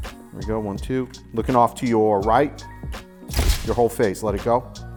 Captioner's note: shutter clicks